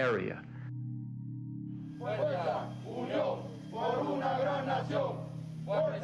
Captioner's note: men chanting